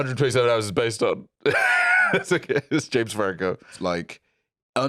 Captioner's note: laughs